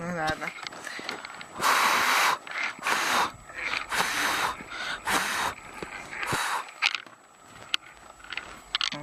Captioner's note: blowing